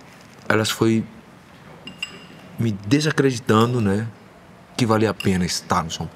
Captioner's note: spoon clinking